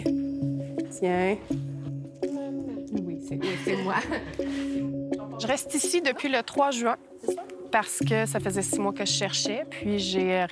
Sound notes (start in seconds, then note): 3.4 laughs